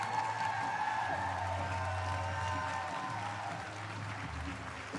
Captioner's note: applause